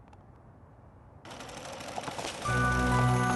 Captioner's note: machines start back up